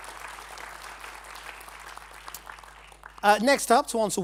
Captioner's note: applause